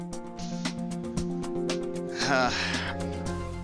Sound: sigh

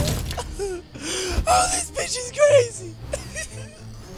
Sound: sobbing

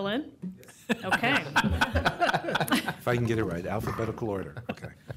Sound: laughter

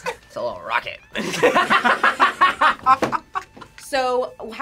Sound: laughs; both laugh

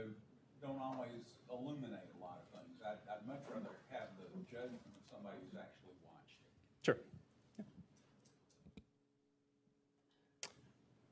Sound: off mic; off mic

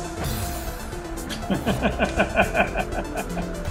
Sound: chuckles

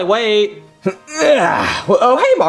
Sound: Junior sighing

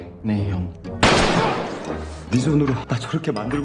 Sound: gun sound

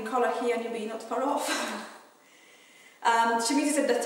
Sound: laughing

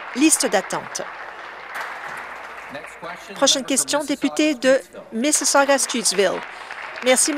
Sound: applause

